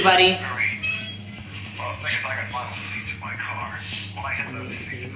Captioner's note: radio chatter